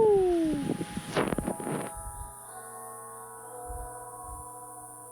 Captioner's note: Iriomote announcement chime